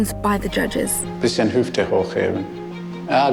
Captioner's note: in German